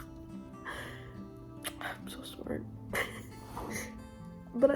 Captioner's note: laugh; clicks tongue; laugh